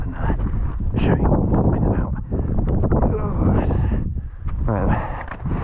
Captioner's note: groans